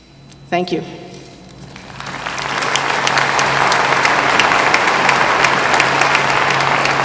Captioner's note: applause